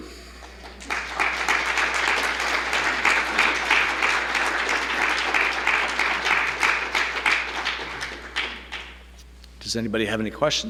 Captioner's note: applause